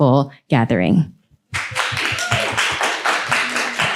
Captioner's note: applause